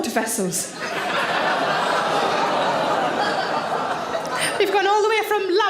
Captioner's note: audience laugh and groan